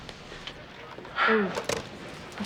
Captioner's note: Evan sighing